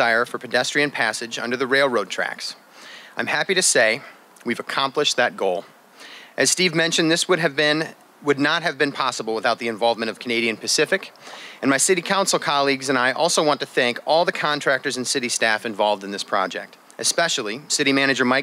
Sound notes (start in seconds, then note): none